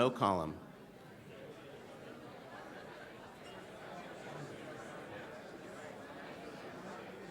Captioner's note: collective chatter